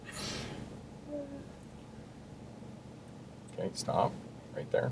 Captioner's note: laughs; sighs